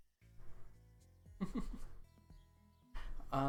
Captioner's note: chuckles